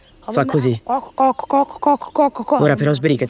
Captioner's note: bird sound